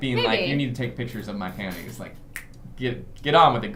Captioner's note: snap